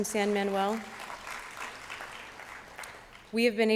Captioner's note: applause